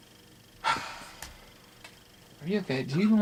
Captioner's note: sighing